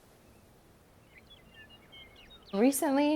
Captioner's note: birds chirping